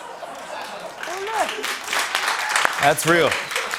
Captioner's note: laughter; applause